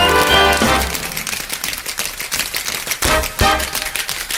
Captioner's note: shoes tapping